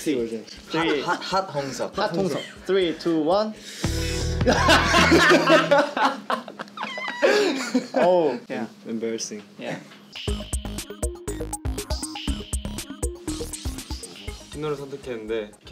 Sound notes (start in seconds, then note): 3.5 smooth music; 4.4 laughs